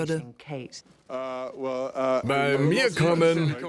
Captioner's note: stammers